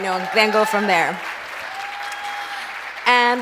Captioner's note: applause